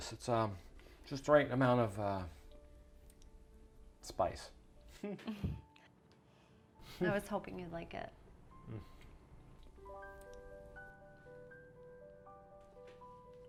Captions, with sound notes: it's, uh, just the right amount of, uh, spice. (both laughs) - I was hoping you'd like it. (gentle uplifting music)